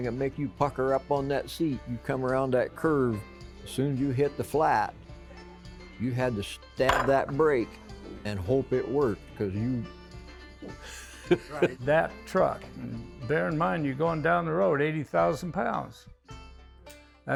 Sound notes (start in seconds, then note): 10.8 laughter